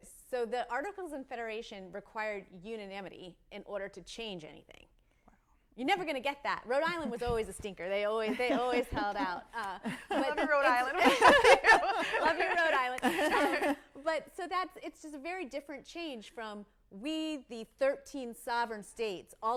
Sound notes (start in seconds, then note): 9.8 laughs